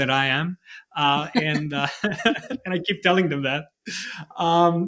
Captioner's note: laughing